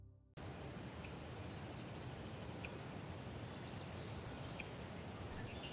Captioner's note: sounds of birds chirping